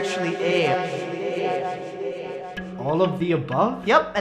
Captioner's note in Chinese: 回音*3